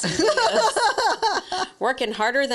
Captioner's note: laughs